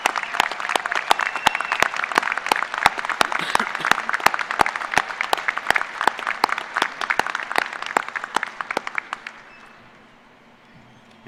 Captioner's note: applause